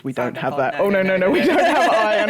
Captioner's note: laughter